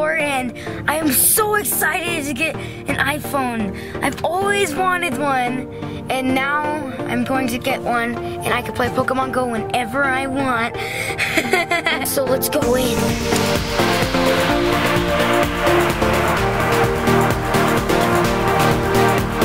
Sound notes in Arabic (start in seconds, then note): 11.1 يضحك; 13.0 الموسيقى الالكترونية متفائلة